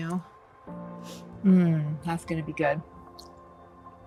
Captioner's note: sniffs